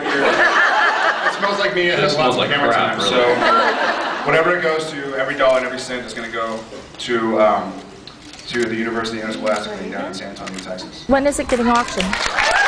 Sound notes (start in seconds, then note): 0.1 laughs; 3.2 scattered laughs; 11.3 applauds